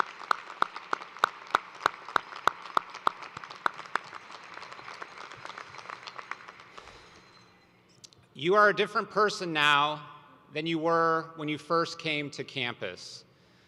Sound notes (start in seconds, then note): 0.0 applause